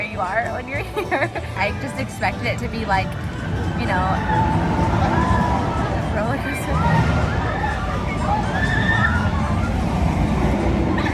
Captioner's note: intense loop-dee-loop sounds